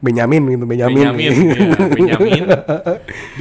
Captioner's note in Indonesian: ketawa